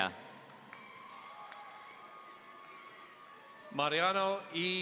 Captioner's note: audience cheering